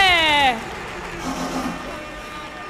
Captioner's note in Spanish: Aplausos